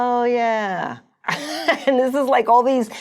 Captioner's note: laughing